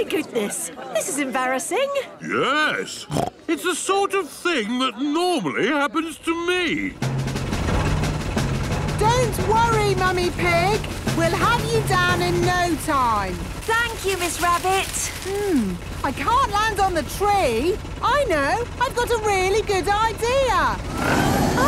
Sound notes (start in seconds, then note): 3.0 snorts